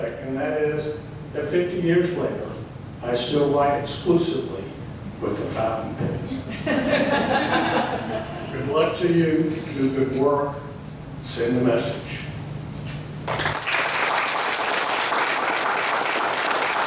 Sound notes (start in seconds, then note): 6.3 laughing; 13.2 applause